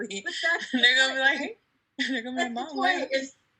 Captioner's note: laughing